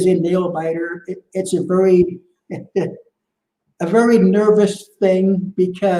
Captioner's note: laughs